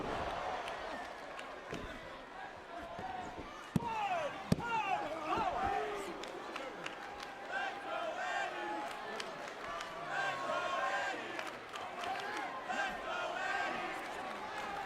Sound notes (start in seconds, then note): 0.8 applause